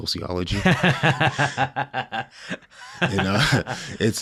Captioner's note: laughing